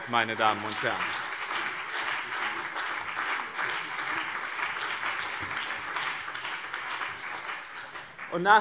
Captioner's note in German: Beifall BÜNDNIS 90/DIE GRÜNEN und CDU